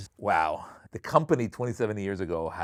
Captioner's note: none